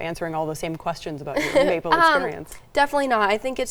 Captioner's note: chuckling